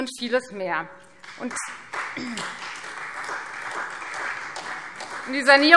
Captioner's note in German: Beifall Freie Demokraten